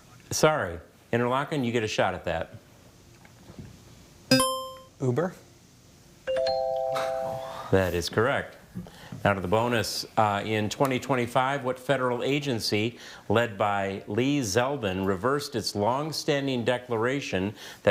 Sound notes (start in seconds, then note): 4.3 buzzer chimes; 6.3 bell chimes